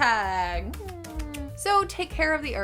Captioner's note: lips smacking